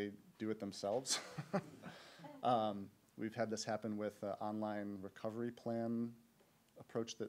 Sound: laughs

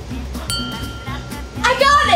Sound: bell dinging

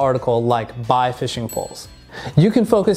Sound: bell rings

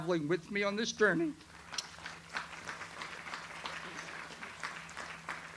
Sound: audience applauds

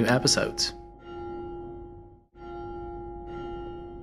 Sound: bell tolling

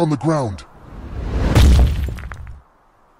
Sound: splat

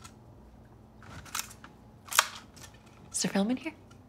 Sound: camera clicks

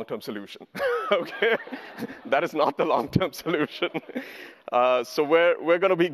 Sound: laughs

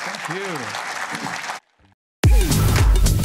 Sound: applause

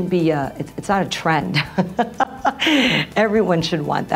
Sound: laughs

